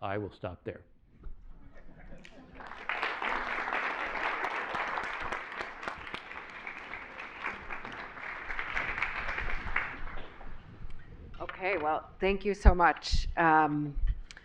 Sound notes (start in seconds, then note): 2.2 applause